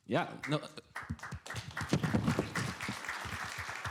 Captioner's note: applause